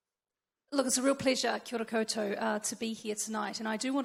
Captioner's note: speaks in foreign language